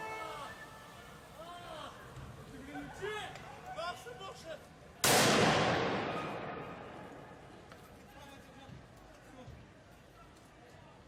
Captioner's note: gun fire